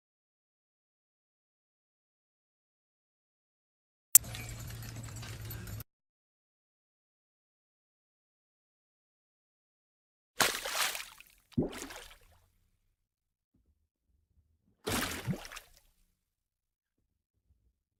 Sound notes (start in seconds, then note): 4.2 jiggling chains; 10.4 splash; 14.9 water bubbles